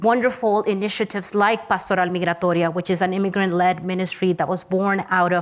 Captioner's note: speaks Spanish